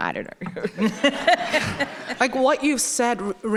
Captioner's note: everyone laughing